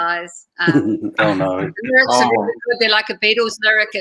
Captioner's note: laughter